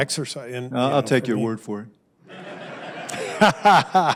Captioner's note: laughter